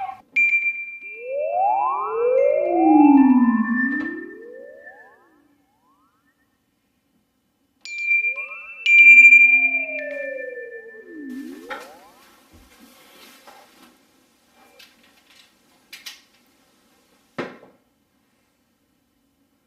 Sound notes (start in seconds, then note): 0.4 high pitch sound; 7.9 high pitch sound